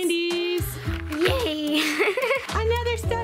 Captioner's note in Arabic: ضحك